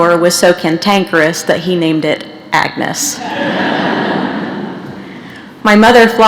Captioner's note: laughter